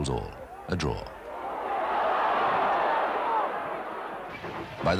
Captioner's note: crowd cheering